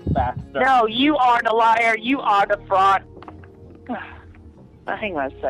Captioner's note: sigh